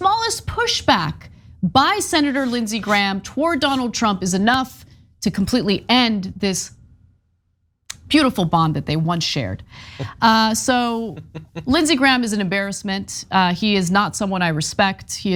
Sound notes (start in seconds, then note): 9.9 laugh